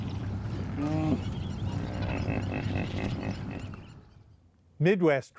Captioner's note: snorting of a hippopotamus